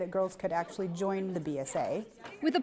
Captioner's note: voiceover